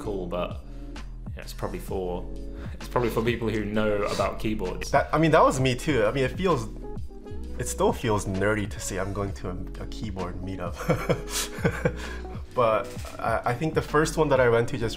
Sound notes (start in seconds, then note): 10.8 giggling